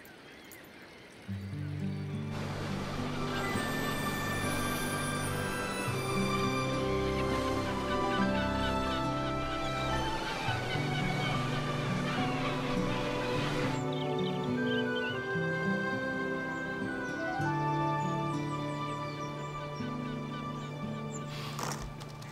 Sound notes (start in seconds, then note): 0.1 birds squawking; 2.3 gentle music; 2.3 waves splashing; 17.3 birds chirping; 17.3 gentle music